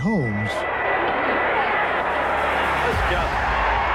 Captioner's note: cheering